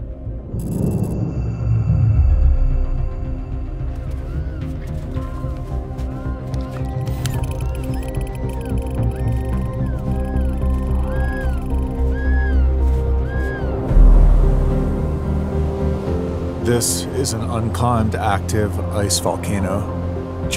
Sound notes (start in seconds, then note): 2.0 electrical buzzing; 5.0 penguins chirping